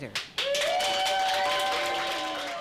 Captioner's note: applause